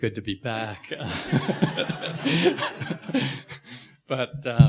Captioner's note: laughing